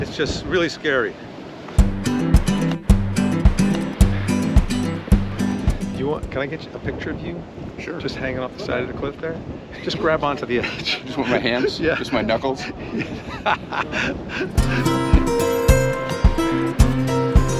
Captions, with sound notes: It's just really scary. (upbeat music) Do you want... Can I get a picture of you? - Sure. - Just hanging off the side of the cliff there. Just grab onto the edge. - With my hands? - Yeah. - Just my knuckles. (both laugh) (upbeat music)